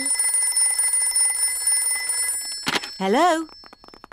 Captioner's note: phone rings